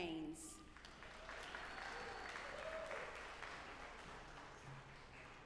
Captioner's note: audience applauding